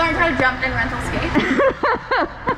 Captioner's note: laughes